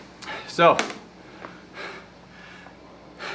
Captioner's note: panting